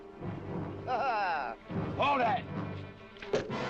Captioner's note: laughing